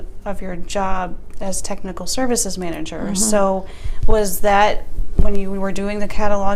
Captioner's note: murmurs, ‘mm hmm.’